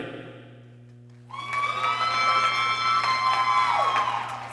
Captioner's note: people cheering